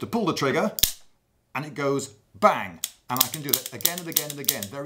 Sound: click

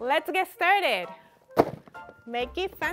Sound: box rattles

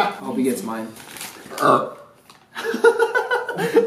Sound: burps; laughter

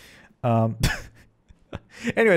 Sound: chuckles

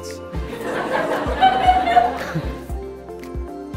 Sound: audience laughter

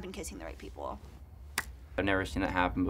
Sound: hands clapping

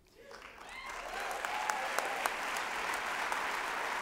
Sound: applause

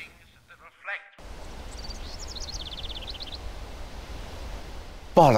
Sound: birds chirping

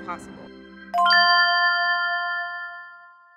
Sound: chiming

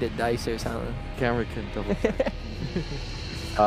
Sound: laughs

